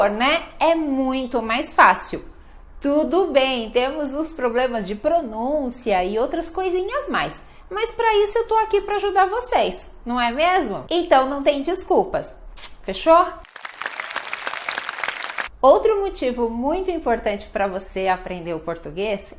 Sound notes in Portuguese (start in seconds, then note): 13.4 aplausos